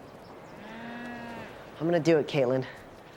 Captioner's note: cow moos